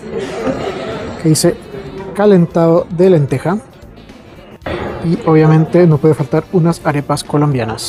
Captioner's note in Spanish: carraspeo